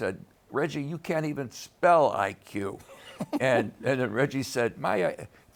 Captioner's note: laughs